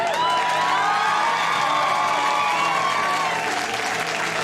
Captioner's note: audience cheers